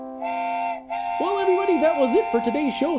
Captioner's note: train horn